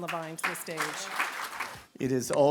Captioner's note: applause